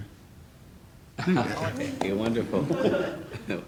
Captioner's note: laughing